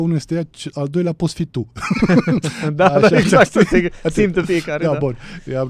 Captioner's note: laughter